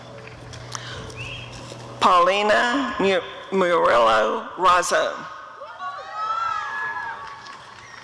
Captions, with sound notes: Paulina Murillo-Razo [applause and cheering]